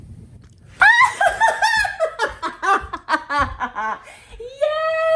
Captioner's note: happy cheering